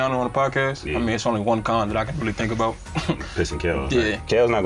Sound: chuckles

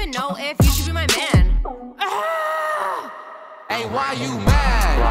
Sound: woman grunting

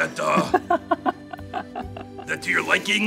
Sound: laughing

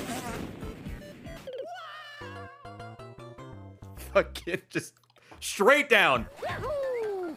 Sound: laughs

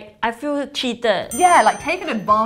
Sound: bell dings

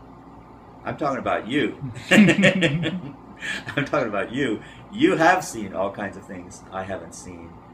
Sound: laughing

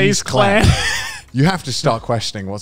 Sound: laughing

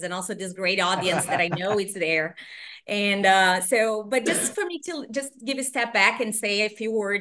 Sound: laughter

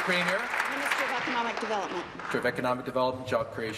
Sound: applause

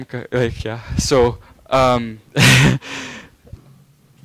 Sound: laughing

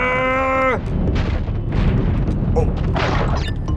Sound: deep groan; boulder rumbling

